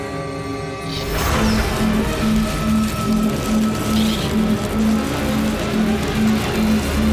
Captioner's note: suspenseful music; laser shoots